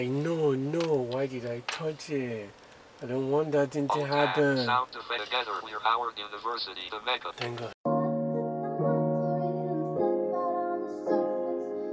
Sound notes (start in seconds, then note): 5.0 automated Voice; 7.8 smooth hip hop music